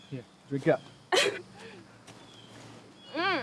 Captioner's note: Donna laughs